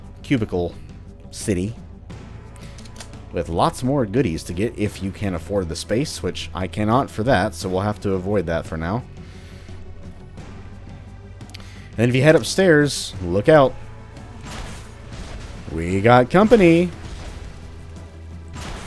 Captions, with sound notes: cubicle... city, with lots more goodies to get, if you can afford the space, which I cannot for THAT,* *the First Aid Kit so we'll have to avoid that for now. And if you head upstairs, look out. *Master Blaster fwooshing* We got company! Whoop,